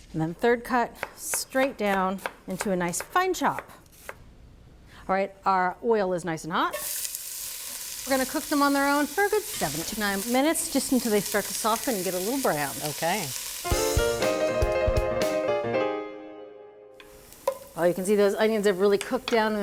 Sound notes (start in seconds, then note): 6.8 pot sizzles; 13.7 upbeat music